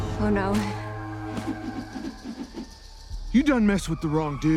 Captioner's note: axe whooshes